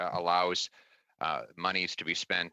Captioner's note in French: voix de l'interprète